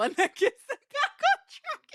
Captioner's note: laughing